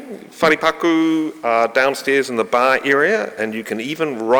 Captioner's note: speaking in foreign language